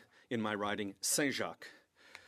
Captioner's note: speaking French